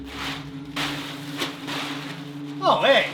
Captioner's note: tarp crinkling